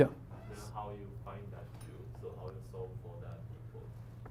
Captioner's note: faintly speaking